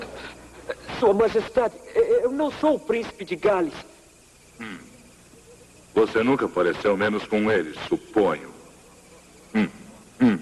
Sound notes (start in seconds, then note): 4.6 grunts